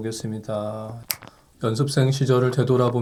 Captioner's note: snap!